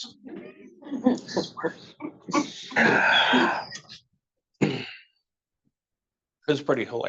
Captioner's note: attendees laughing